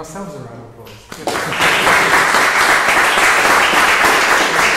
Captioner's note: audience applauds